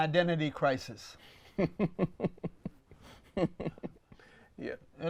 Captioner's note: laughs